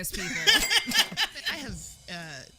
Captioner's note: laughter